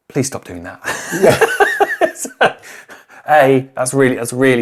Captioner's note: laughs